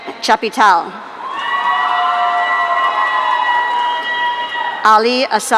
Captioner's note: audience cheering